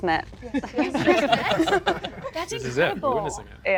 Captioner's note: people laughing